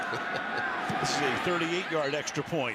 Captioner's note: laughs